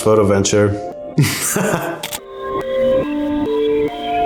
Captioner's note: laughing